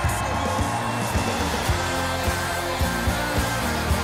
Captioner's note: cheers and applause